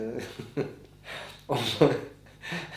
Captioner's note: laughter